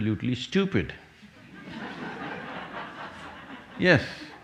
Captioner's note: laughter